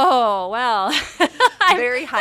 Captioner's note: laughs